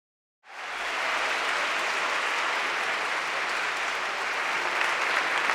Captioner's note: audience cheering and applauding